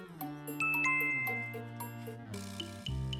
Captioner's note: chime